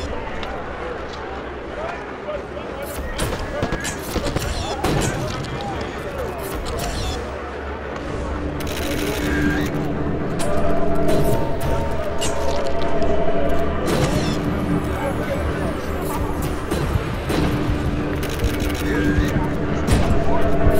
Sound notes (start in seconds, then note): 0.0 crowd stirs; 3.0 cameras click